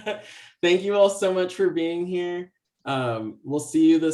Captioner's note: laughs